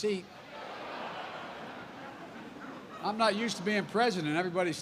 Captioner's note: laughter